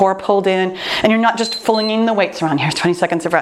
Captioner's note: timer beeps